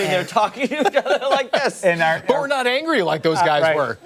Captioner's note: laughter